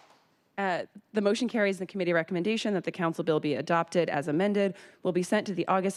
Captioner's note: applause